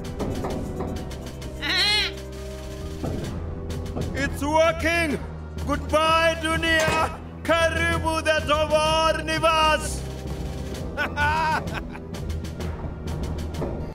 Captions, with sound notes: (nervous bleating) - It's working! Goodbye, Dunia! (in foreign language)